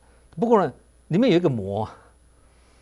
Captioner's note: in Mandarin